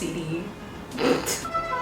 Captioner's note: laughs